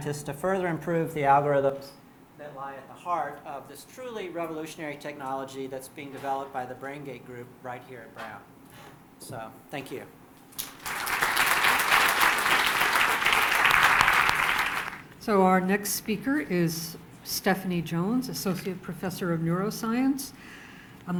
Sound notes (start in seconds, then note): 10.5 applause